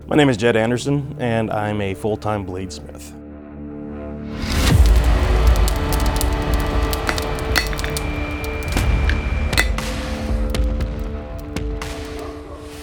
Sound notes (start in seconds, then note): 4.4 fire crackling; 4.5 dramatic music; 7.1 hammer thudding